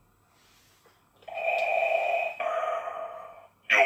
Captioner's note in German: Darth Vader breathing noise